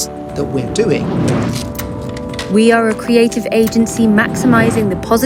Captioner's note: woman voice